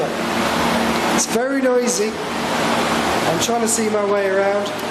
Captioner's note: loud whirring